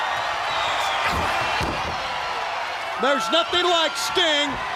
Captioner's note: crowd cheering